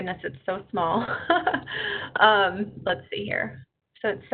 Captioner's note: chuckles